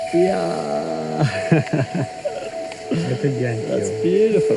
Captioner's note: laughs